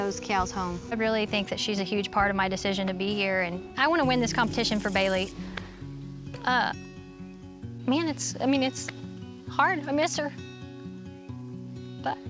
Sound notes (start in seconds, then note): 6.4 says emotionally